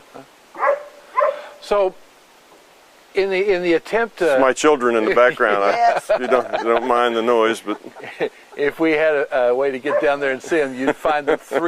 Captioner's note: Hundegebell